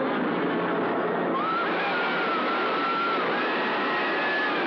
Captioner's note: screaming